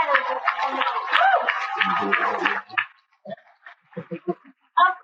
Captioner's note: cheers and Applause